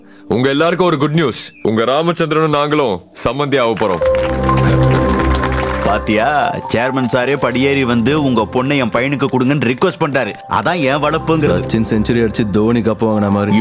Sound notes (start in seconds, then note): 3.6 applause